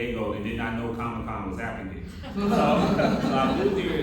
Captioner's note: laughter